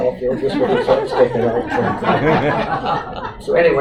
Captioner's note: audience Laughter